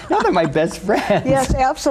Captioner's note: laughs